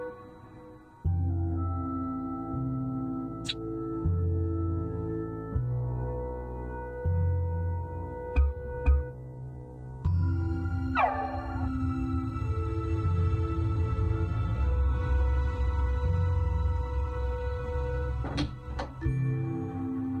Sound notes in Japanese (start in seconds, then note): 18.2 扉の開く音：ガッチャン